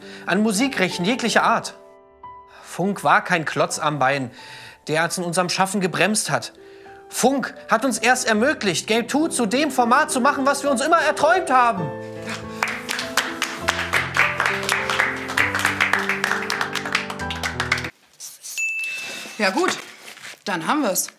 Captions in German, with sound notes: an Musikrechten jeglicher Art Funk war kein Klotz am Bein, der uns in unserem Schaffen gebremst hat. Funk hat uns erst ermöglicht, "Game Two" zu dem Format zu machen, was wir uns immer erträumt haben. (Applaus) (Nachdenkliche Musik) (Klingeln) Ja, gut, dann haben wir's.